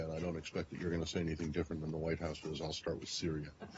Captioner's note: laughter